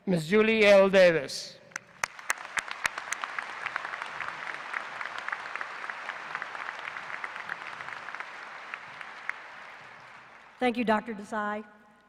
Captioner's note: applause